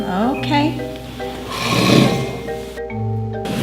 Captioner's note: chair scrapes on floor; dishes clatter